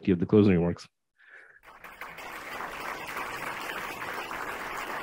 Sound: crowd clapping

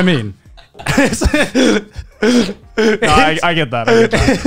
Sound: laughing

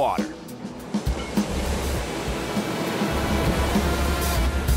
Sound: water splashes

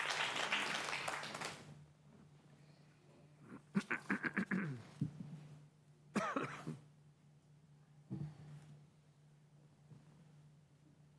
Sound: applause

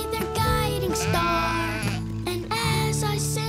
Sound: sheep baaing

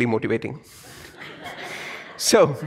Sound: audience laughs

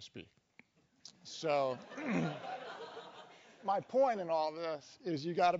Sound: cough

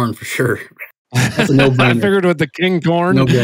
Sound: laughs

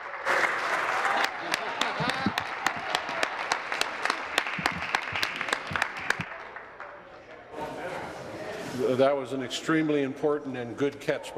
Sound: applause

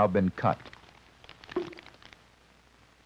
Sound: bubble pops

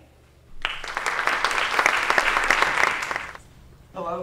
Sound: applause

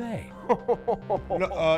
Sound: chuckling

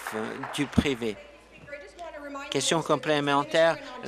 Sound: applause

